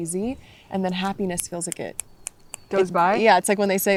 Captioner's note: snapping fingers